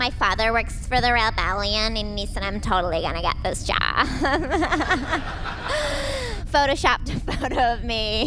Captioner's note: laughs smugly